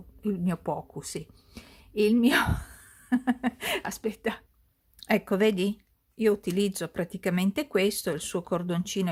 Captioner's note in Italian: risate